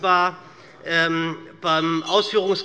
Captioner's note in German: Anhaltende Unruhe - Glockenzeichen des Präsidenten